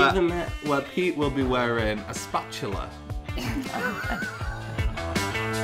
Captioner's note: laughs